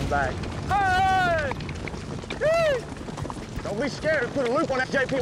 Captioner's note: shouting